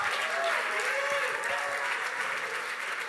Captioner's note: applause